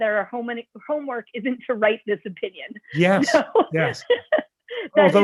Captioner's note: laughter